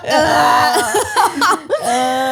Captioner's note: exclaiming and gagging